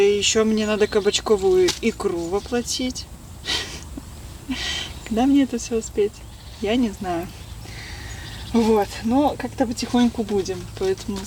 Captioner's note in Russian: фыркает